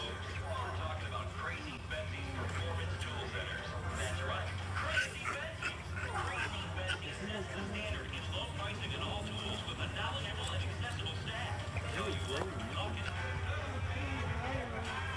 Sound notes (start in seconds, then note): 4.8 piglet oinking